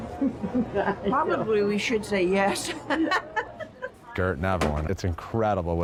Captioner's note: laughing; laughing